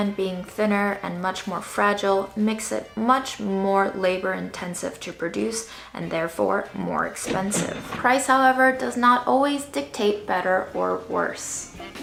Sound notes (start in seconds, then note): 7.2 cash register dings